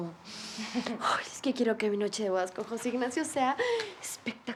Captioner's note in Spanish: Risas